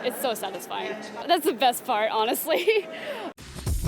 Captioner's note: laughs